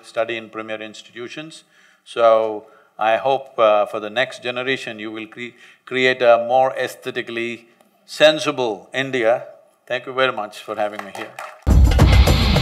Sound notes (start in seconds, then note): 10.8 applause